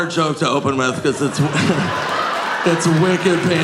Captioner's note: audience laughing